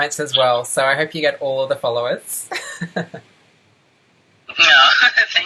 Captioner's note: laughs